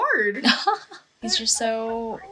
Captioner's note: soft laughter